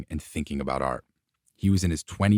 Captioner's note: none